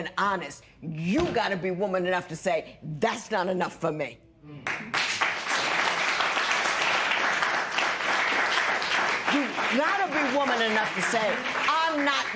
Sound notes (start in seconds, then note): 4.6 applause